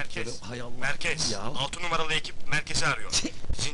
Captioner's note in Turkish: telsizden